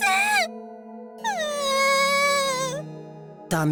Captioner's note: sob